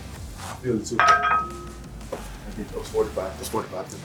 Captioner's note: weights clattering